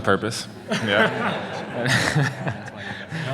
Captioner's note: laughter